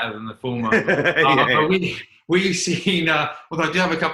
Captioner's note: light laughter